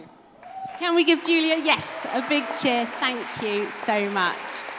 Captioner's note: cheering and applause